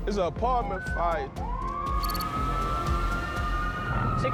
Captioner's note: ambulance siren